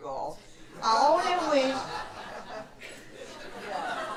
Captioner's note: laughter